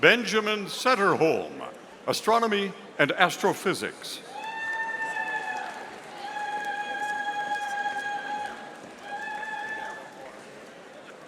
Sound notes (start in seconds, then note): 4.3 audience cheering